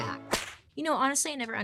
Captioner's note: whip cracking